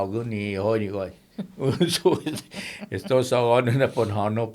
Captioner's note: laughing